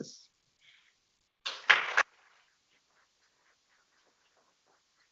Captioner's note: people clapping